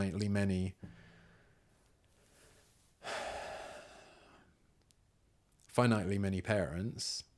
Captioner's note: sigh